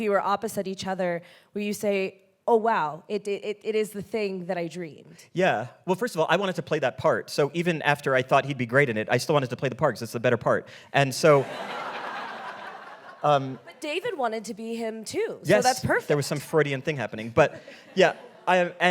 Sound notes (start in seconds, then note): 11.3 audience laughing